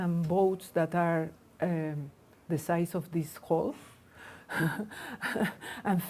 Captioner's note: laughs